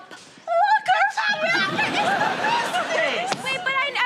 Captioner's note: giggling